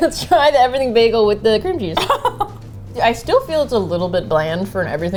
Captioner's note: laughing; laughs